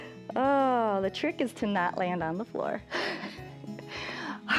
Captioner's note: laughs